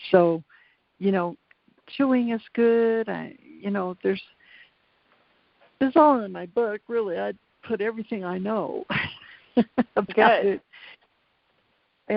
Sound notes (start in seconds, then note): 9.0 laughs